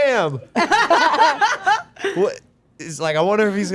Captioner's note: group laughing